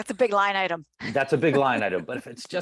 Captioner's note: laughs